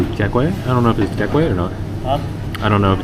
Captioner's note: speaking Vietnamese